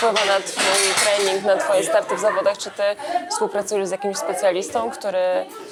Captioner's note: laughs